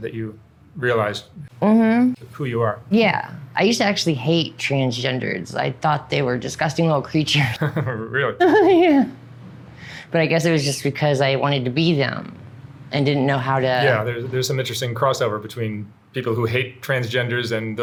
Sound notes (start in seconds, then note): 8.4 laughs